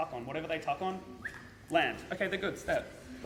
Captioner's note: whistles